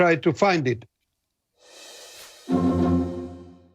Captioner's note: sound effect